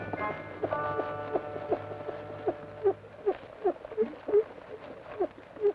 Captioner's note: rocker box squeaks rhythmically